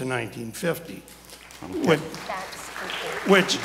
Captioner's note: audience applauds